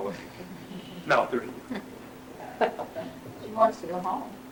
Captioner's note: laughter